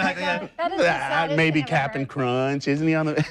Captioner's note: laughs